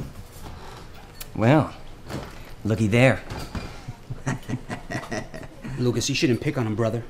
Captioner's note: chuckling